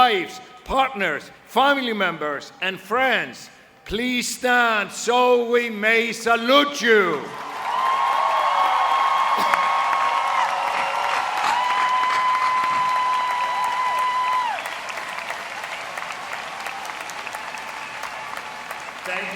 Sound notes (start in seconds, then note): 16.6 applause